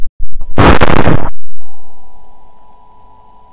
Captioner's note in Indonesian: bomb meledak, mic ternyata gak rusak